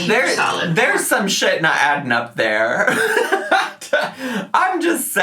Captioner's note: laughs